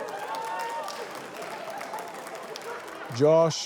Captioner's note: cheering, applause